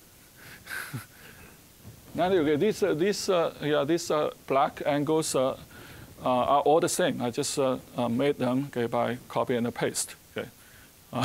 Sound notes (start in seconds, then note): 0.6 chuckling